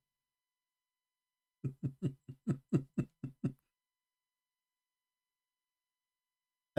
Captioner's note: Ketawa